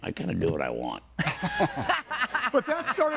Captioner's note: all laughing